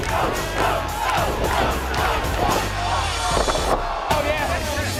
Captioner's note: crowd cheering